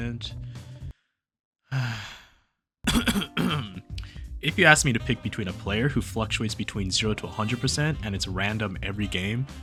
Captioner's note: cough